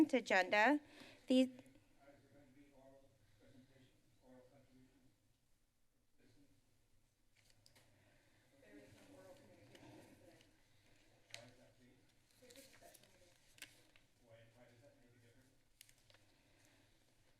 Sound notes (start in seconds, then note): 2.6 background conversations